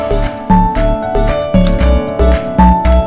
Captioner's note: Cameras clicking